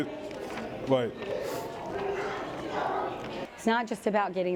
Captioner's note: crowd Noise